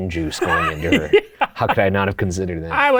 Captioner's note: laughs